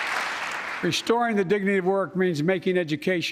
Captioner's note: applause